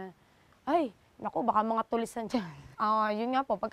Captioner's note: chuckles